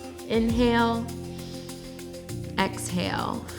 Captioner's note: exhales; inhales